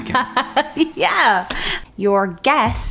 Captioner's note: laughing